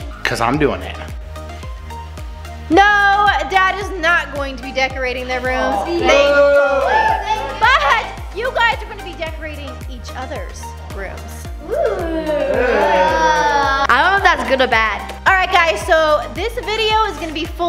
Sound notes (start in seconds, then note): 6.0 children whoop; 6.0 father jeers; 11.6 children groan